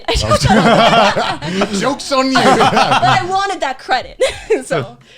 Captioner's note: laughing